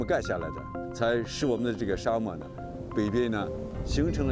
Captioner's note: speaking chinese